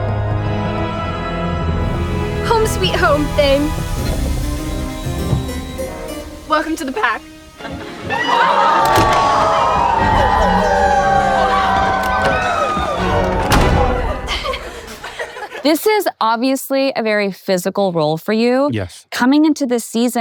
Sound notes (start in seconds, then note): 4.4 suspenseful music; 7.8 pack howling; 13.2 door thuds; 14.8 kids laughing